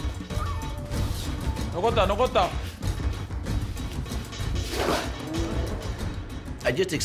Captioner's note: speaking japanese